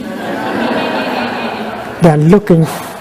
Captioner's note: laughter